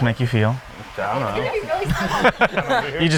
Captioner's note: laughs